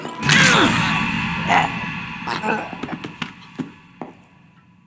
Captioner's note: cochrane gags and gasps